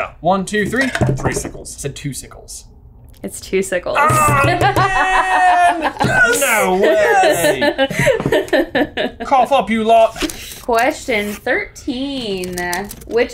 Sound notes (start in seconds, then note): 7.2 laughing